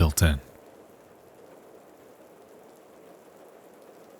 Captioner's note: rain pattering